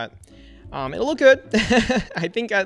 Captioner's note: laughs